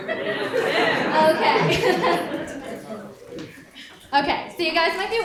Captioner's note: audience laughs